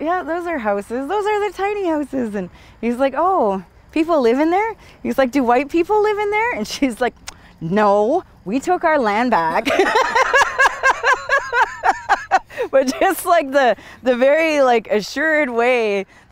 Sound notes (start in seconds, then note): 9.6 they laugh